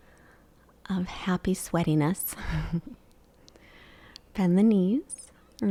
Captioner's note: chuckles